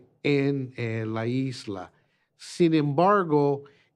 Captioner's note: in Spanish